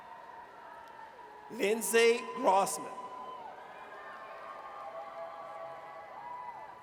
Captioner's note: audience cheers